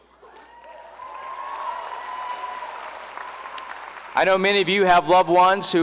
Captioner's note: cheering and applause